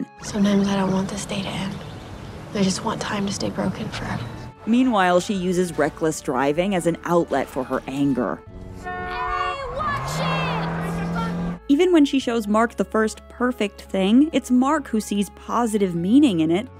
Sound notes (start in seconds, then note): 8.7 car horn